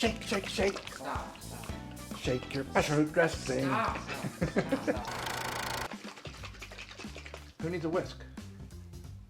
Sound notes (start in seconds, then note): 6.5 sloshing